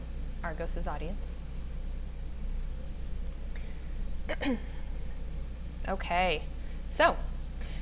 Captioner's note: cough